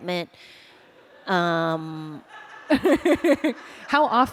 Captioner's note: laughter